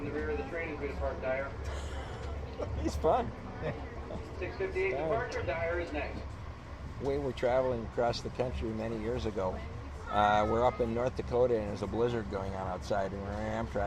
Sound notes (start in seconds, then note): 1.7 laughs